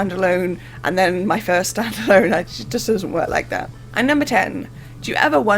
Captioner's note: laughing